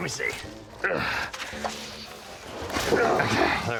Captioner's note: grunting